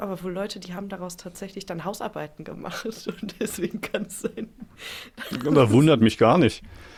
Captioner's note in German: gelächter